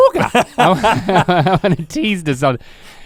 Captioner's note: Rhett laughs